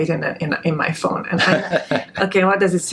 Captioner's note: laughing